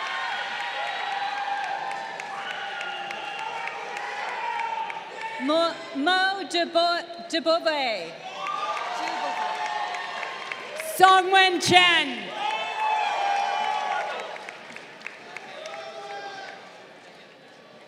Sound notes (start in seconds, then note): 0.0 crowd cheering; 2.2 people in audience shouting; 8.6 crowd cheering; 12.3 crowd cheering